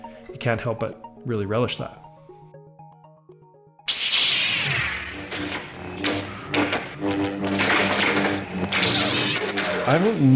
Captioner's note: lightsaber sound plays